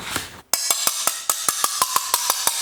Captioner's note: metallic knocking